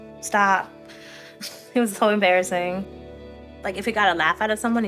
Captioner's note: chuckles